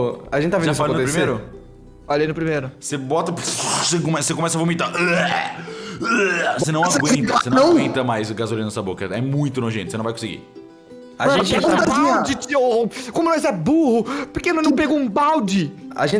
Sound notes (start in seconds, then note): 6.0 blergh; 6.0 blurgh blergh